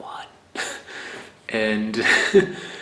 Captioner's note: laughs